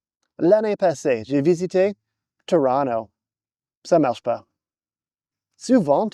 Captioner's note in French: accent anglais; accent anglais